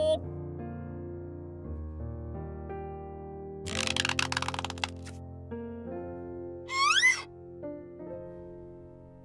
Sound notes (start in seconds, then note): 0.0 gentle piano music; 3.6 beanstalk squeaking